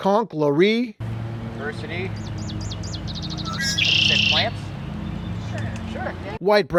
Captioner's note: bird song